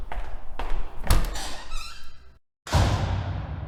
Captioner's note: footsteps; door Opening; door Closing